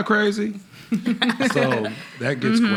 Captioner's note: laughing